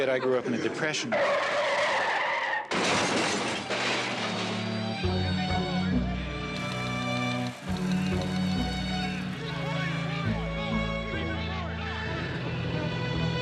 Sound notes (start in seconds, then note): 1.0 tires squealing; 2.8 objects clattering; 4.2 sentimental music; 8.4 typewriters clacking